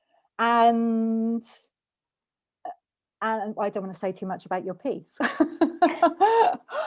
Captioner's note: laughs